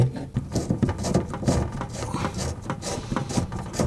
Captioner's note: rattling